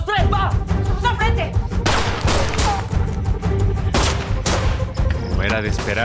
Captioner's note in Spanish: Disparos